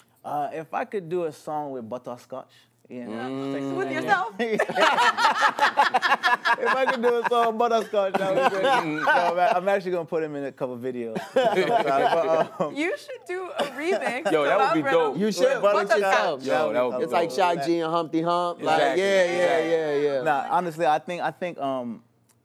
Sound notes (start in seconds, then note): 4.4 laughter